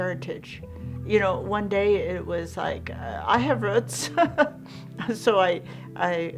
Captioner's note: laughs